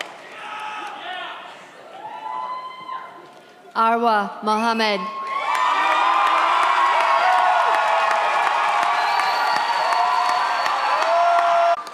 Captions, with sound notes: Awa Mohammed (audience cheers)